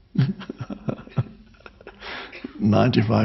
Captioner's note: laughs